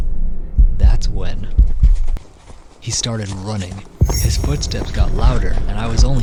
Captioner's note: footsteps running on paved ground